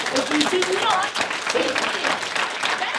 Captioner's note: applause